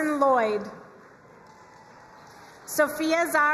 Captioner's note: crowd cheering and applauding